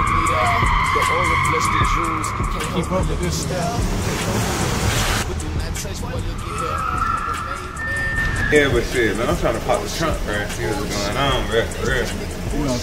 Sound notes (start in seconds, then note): 0.3 tires squealing; 4.2 tires screeching; 4.2 upbeat music continues